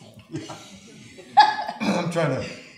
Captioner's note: chuckling; laughs